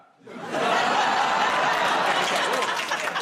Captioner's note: audience groans